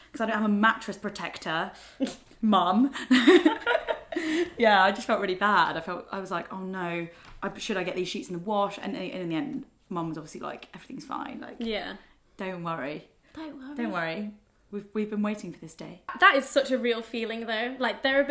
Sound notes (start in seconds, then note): 2.9 both laugh